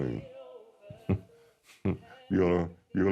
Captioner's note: chuckles